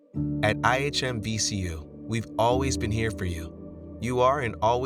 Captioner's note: voiceover